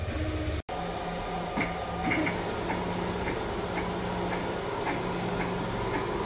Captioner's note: printer machine noise